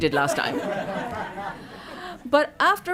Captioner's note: laughter